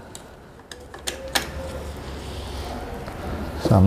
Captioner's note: damper noise